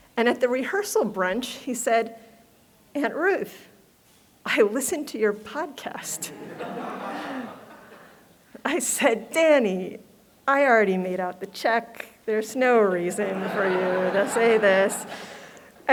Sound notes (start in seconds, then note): 6.1 laughter